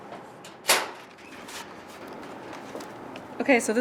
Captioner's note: storage lock opening